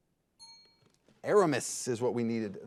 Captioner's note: signal dings